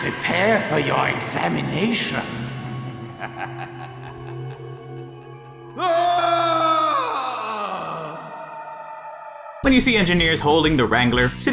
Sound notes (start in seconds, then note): 3.0 long, evil laugh; 5.7 scream